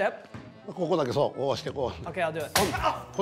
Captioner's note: speaking japanese